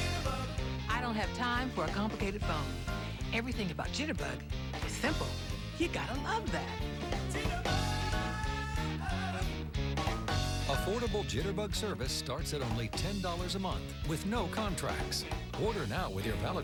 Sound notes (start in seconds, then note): none